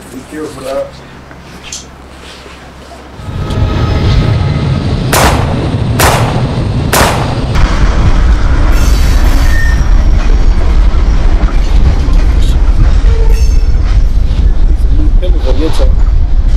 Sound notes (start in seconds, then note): 5.0 gunshots